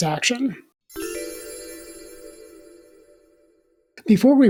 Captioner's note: chime